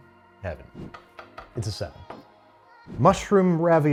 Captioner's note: air whooshes